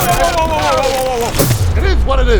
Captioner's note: crash